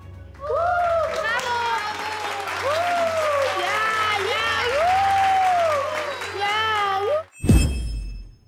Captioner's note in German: Laute Bravo-Rufe. Klatschen. Ja-Rufe